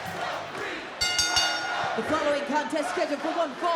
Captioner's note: bell ringing